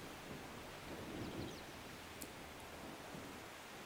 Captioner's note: wind blowing